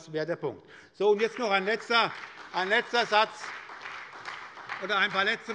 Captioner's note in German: Beifall bei der SPD und der FDP